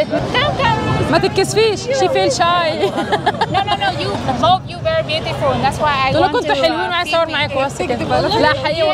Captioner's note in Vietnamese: Tiếng cười